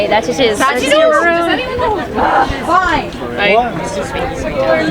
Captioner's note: people chattering